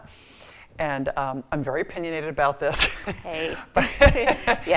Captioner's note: laughs